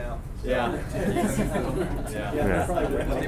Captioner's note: group laughing